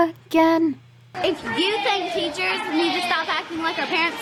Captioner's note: child's voice